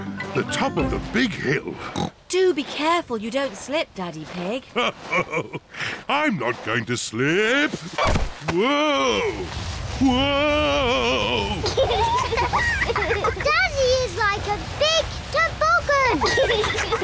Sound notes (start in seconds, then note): 1.8 snorts; 4.6 chuckles; 11.5 both giggle